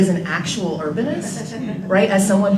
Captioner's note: group laughter